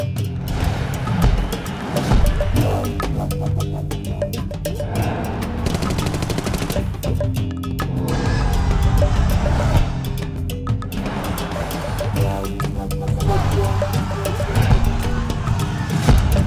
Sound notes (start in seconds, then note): 5.8 machine gun firing